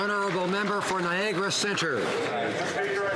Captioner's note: some Applause